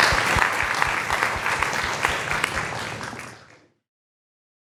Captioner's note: audience applauding